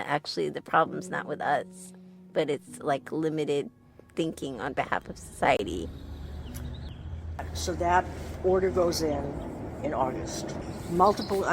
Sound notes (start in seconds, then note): 5.4 bird sounds of Stanford campus